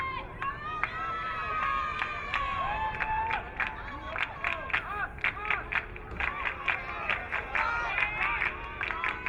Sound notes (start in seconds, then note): 1.2 crowd cheering; 4.0 crowd clapping